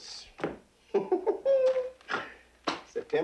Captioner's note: Ben laughing